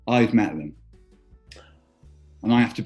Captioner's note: gasps